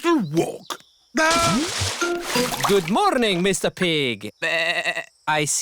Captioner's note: bleats